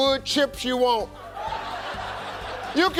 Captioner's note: audience laughing